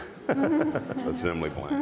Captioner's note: panel laughs